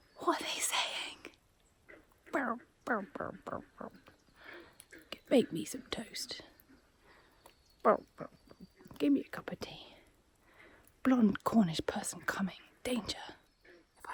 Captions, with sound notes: What are they saying? (Imitates frogs) Make me some toast. (frog noises) Give me a cuppa tea. Blonde Cornish person coming. Danger.